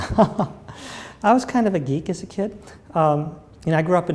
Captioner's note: laughter